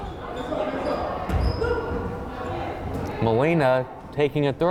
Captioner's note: crowd chattering